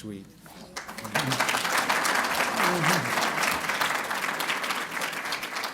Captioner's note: applause